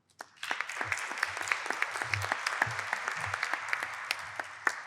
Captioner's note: applause